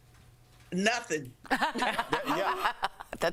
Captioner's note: laughter